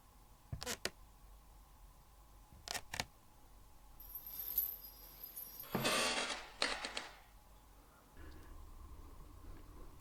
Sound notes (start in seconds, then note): 0.1 creaking footsteps; 4.0 sound of a dragging chain